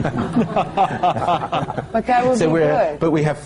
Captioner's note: laughs